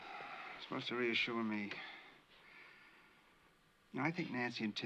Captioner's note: exhales